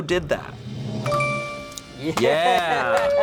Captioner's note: tense music building; bell chimes